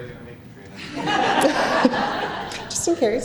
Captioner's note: laughter